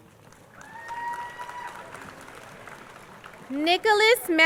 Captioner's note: crowd cheering and applauding